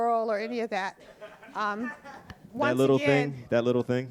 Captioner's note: audience laughing